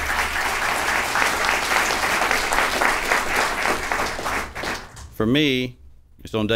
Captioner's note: applause